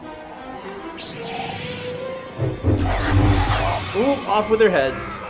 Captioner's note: lightsaber whooshing; animals roaring